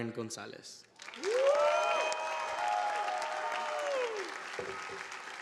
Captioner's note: audience applauding